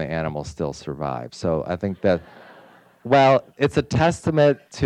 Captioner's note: audience laughs